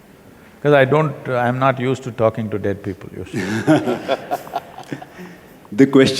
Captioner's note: laughter